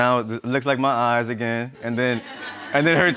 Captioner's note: audience laughs; laughs